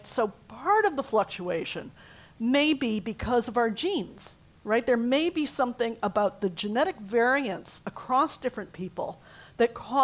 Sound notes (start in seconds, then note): none